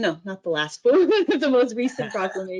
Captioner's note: chuckles